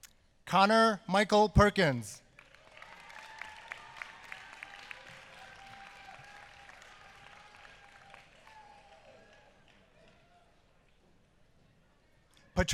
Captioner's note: applause